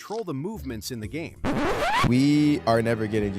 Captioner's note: record scratching